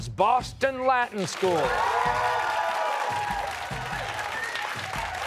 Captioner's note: cheers and applause